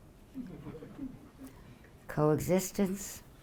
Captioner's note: audience laughing